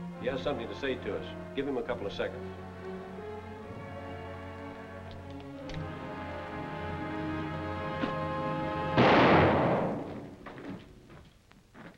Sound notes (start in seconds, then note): 8.0 gun clunks; 8.9 gun fires